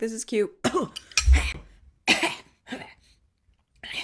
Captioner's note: coughing